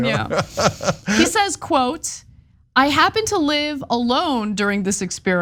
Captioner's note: laugh